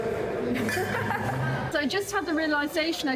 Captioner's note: laughing